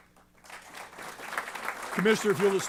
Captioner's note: applause